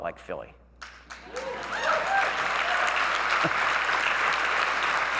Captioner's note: audience cheering